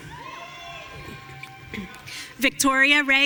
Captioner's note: audience cheering